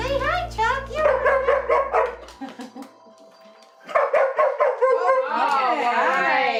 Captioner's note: dog continues barking